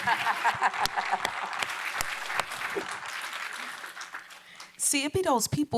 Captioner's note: applause